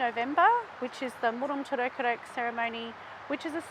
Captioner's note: speaking in Woi Wurrung traditional language